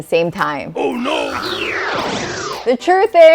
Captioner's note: whooshing